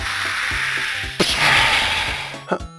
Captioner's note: pshaaa!